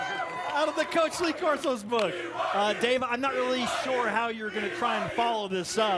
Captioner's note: cheers and applause